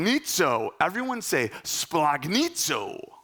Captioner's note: speaking in Greek